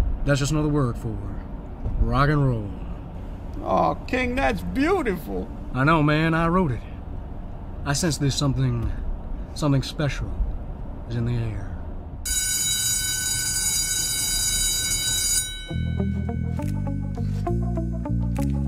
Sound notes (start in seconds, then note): 12.2 school bell ringing; 15.6 tense music